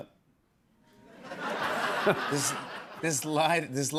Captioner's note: laughter